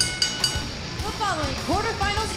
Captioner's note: bell ringing